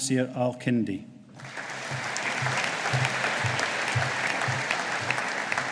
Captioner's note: audience applauding